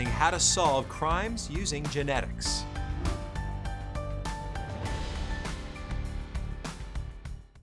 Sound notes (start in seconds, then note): 2.6 air whooshes; 2.7 pensive music